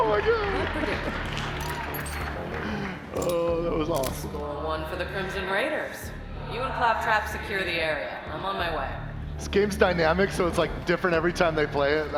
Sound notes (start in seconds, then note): 2.5 applause